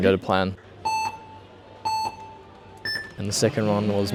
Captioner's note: countdown beeping